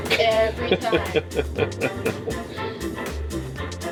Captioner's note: laughs; upbeat music